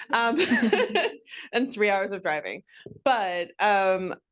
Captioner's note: laughs